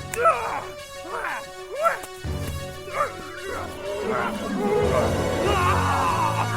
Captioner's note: Farley screaming; trogs growling